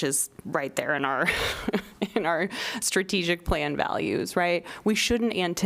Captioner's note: laughter